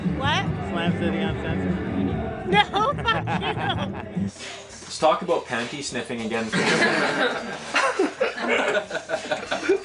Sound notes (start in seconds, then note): 6.6 laughing